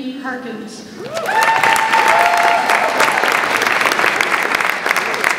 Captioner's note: audience applauds and cheers